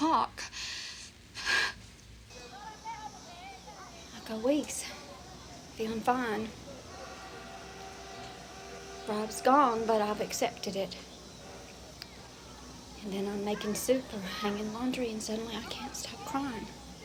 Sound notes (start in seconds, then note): 1.7 background children chattering; 6.8 train horn tooting